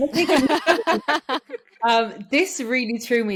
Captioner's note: all laughing